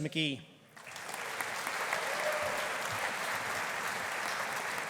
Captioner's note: audience applauding